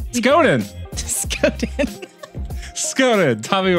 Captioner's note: laughs